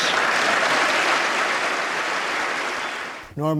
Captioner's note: applause